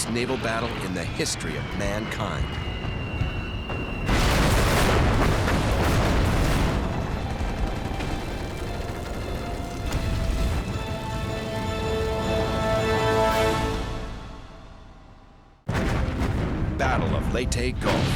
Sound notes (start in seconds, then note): 3.7 explosion; 6.4 gunfire